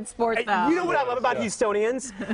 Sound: laughter

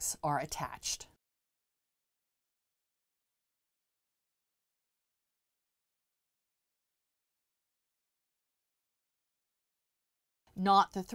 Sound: no Sound Present

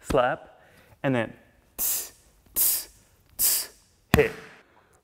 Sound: tss-tss-tss

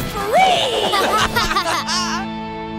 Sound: laughing

